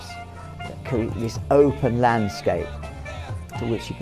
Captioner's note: humming tune